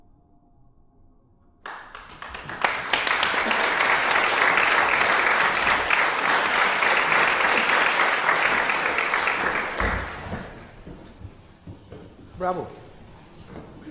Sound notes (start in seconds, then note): 1.6 applause